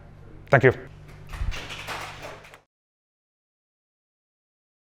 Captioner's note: applause